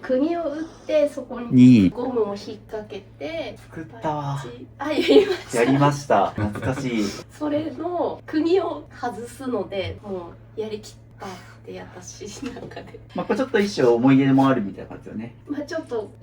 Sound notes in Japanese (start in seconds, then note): 13.0 笑い